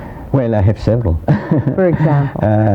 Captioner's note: laughs